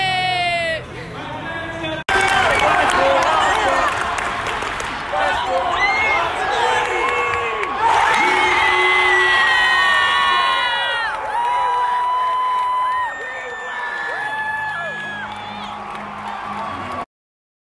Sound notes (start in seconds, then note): 2.1 crowd chanting; 7.7 crowd cheering